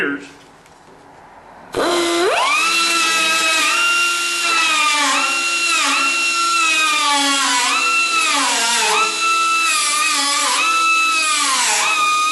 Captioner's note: grinding